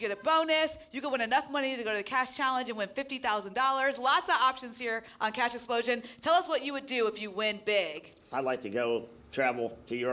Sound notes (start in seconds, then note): none